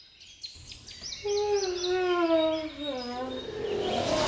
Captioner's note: birds chirping; yawns; dramatic music